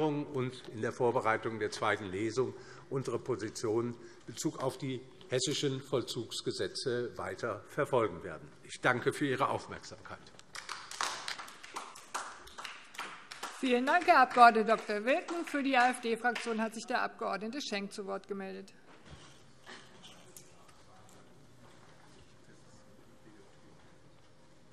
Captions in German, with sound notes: Anhörung und in der Vorbereitung der zweiten Lesung unsere Position in Bezug auf die hessischen Vollzugsgesetze weiter verfolgen werden. - Ich danke für Ihre Aufmerksamkeit. [Beifall DIE LINKE] Vielen Dank, Herr Abg. Dr. Wilken. - Für die AfD-Fraktion hat sich der Abg. Schenk zu Wort gemeldet.